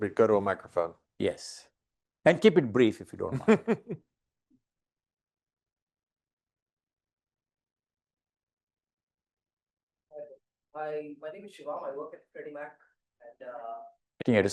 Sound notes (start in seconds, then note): 3.2 laughing